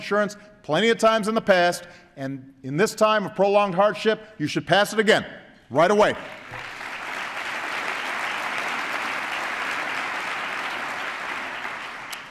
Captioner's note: applause